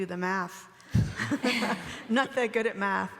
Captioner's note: everyone laughing